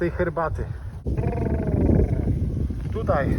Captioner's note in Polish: odgłos CHEWBACCY